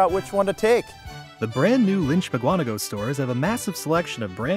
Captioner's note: voiceover